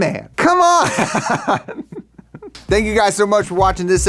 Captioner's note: laughing